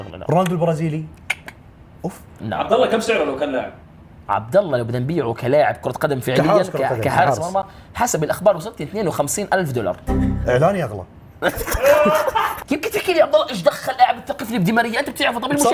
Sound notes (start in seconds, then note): 11.4 laughs